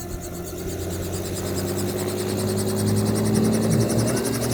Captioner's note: engine revs